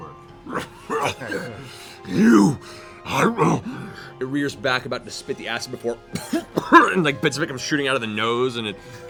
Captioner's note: coughs